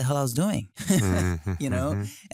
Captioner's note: laughs